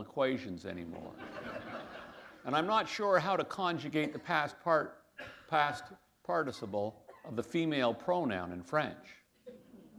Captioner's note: laughter